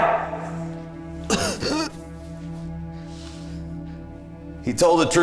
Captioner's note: Brown coughing